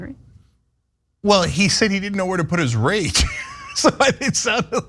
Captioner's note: laugh